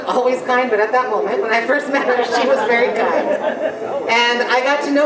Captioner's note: general laughter